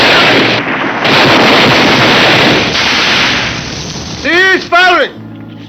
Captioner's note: gunshots blasting